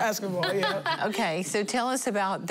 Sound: laughing

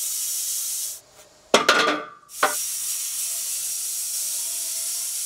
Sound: clattering, sawing

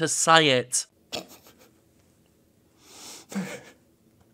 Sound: sniggers

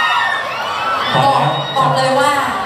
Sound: scream

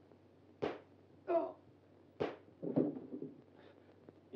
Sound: gunshots blare

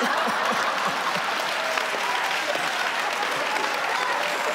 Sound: audience laughing

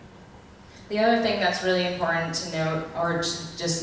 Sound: voiceover

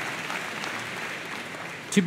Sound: applause

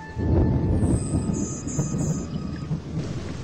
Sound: distant ringing

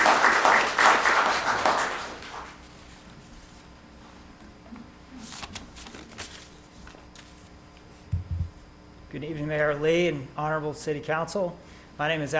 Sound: applause

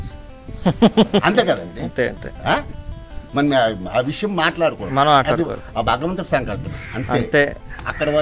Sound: laughs

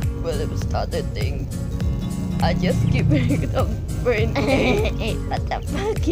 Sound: cut off by laughing

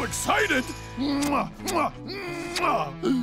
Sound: kissing sounds

